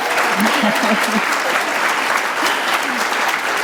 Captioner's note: applause